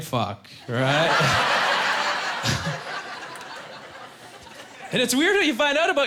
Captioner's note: laughing